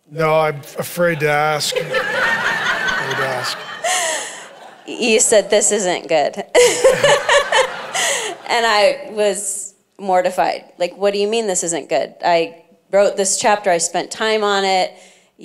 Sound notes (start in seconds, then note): 3.1 congregation laughing; 6.5 laughs